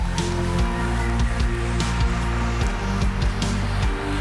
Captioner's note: audience cheering